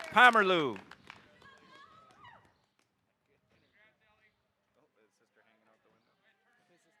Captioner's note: audience applauding